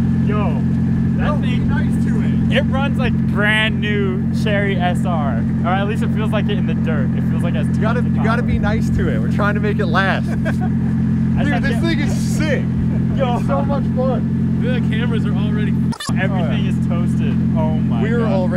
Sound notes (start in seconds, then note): 10.2 laughing; 15.9 beep